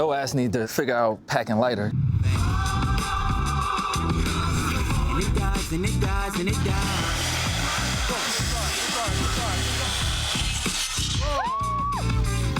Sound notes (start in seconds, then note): 8.0 saw grinds